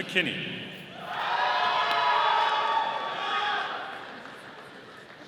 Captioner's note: audience cheering